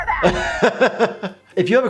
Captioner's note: laughs